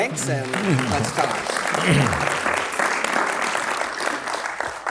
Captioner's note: audience clapping